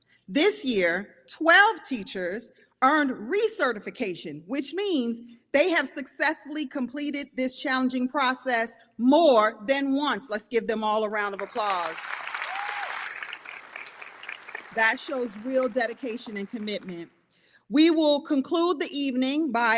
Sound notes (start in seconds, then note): 11.4 audience applauding; 12.3 audience member cheers